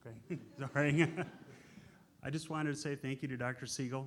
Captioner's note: laughs